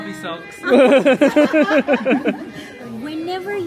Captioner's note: laughing